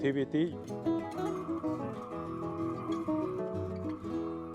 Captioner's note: torch whirring